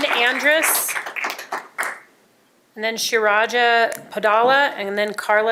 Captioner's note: applause